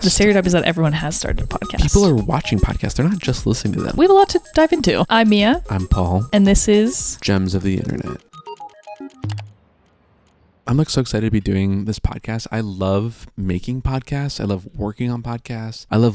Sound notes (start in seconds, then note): 8.7 light upbeat music; 9.6 mouse clicks